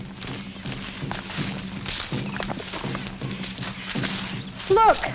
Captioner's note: leaves crackle